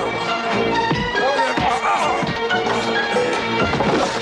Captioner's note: grunts and screams